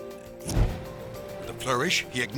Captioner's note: fire whooshes